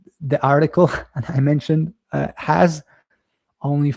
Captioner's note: chuckles